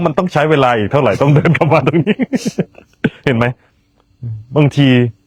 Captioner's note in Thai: เสียงหัวเราะ